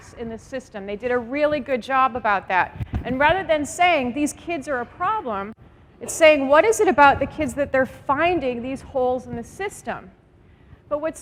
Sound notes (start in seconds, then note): none